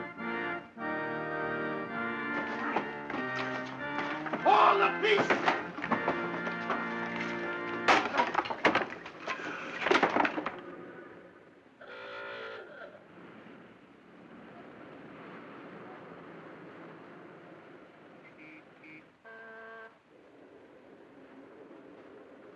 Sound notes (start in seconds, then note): 0.0 organ playing; 7.7 crack; 11.9 car honks outside; 12.6 city street sounds